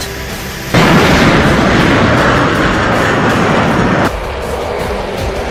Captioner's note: plane engine roaring